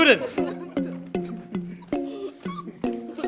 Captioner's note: laughter